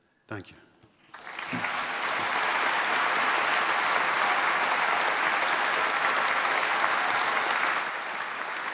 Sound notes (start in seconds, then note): 1.0 applause